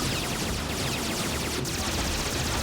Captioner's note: explosions